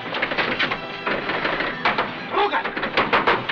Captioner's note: door rattles